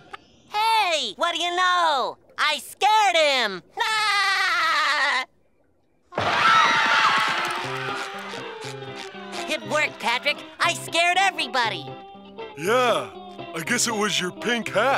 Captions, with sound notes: Hey, what do you know? I scared him! [laughing] [screaming] It worked, Patrick. I scared everybody! Yeah, I guess it was your pink hat.